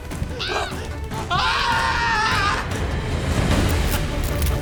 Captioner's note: screaming; crackling